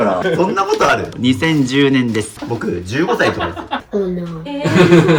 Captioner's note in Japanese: 笑い